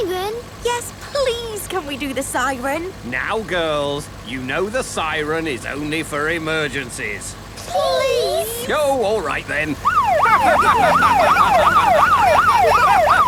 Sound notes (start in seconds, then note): 9.8 siren wailing; 11.4 laughing